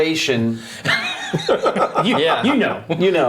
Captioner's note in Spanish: risas